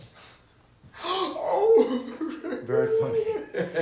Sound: exaggerated crying

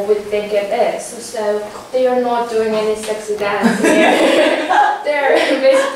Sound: laugh

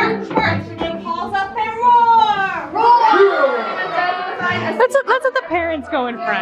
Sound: children roaring

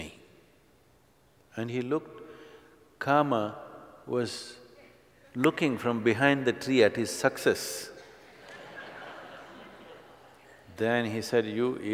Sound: laughter

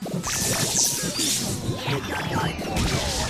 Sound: hissing & Whirring

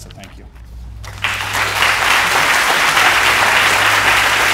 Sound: applause

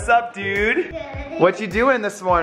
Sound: giggles

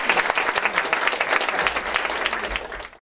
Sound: applause

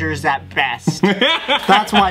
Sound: laughs

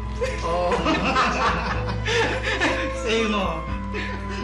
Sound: both laugh

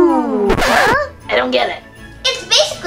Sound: record scratches

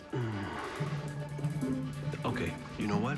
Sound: groans

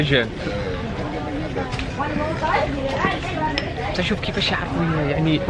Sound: speaking Vietnamese

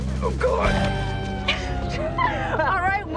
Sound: laughing

